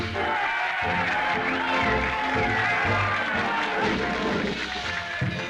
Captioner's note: cheering